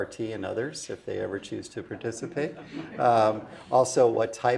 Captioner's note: laugh